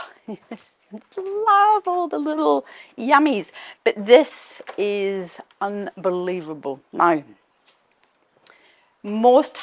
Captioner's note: chuckles